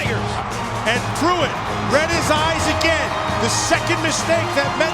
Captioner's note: voiceover